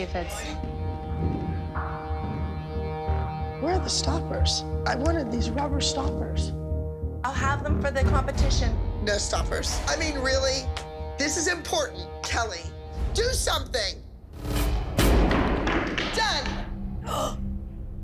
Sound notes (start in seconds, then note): 15.5 slamming sounds